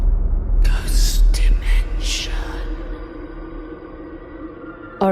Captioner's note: ghostly Voice